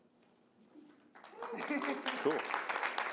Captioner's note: applause